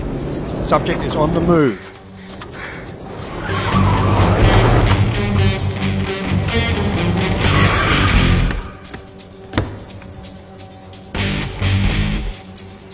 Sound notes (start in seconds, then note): 2.2 tires screeching; 5.5 melodic suspenseful music; 7.4 tires screeching